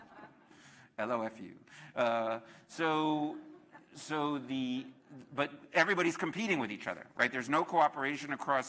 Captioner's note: laughter